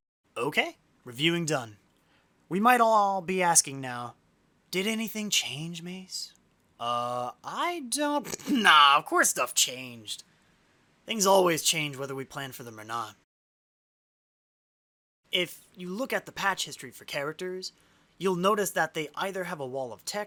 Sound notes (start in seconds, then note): 8.2 laughs